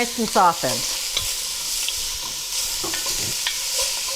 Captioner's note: pot sizzles